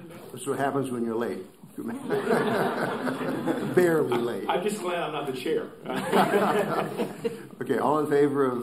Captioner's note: laughter